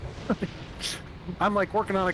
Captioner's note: laughs